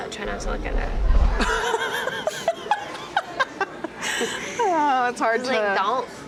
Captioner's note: laughs